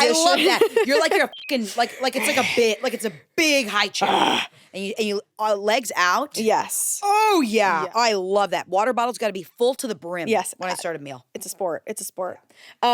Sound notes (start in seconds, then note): 1.2 beep; 4.0 growls